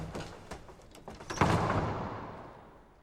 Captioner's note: door closes